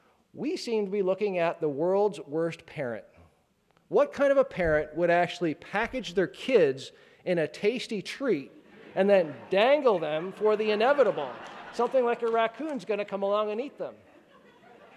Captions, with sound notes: We seem to be looking at the world's worst parent. What kind of a parent would actually package their kids in a tasty treat (laughing) and then dangle them for the inevitable. Something like a raccoon's gonna come along and eat them.